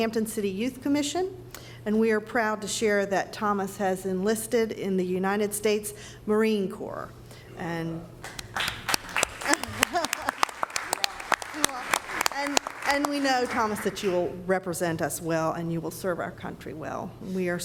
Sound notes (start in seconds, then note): 8.2 applause